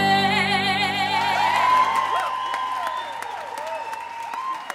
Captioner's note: applause